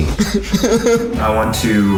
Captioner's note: Zach laughs